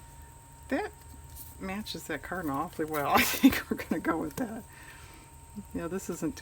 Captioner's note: laughs